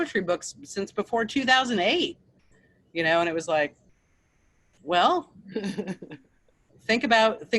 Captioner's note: laughs